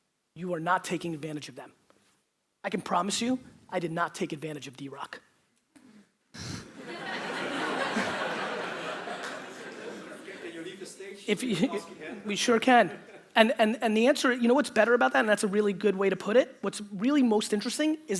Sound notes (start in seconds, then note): 6.6 audience laughter